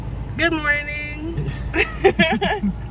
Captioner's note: laughs